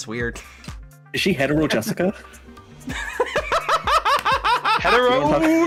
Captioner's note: explodes laughing